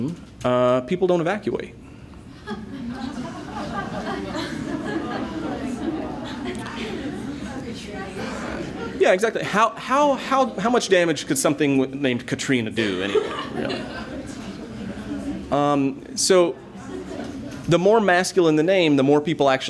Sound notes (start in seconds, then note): 4.8 laughter